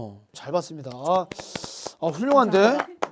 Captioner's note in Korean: 박수